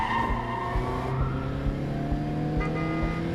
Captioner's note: horn honks